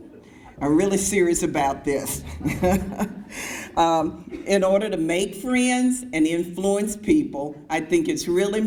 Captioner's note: laughs